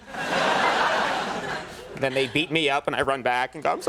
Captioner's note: audience laughing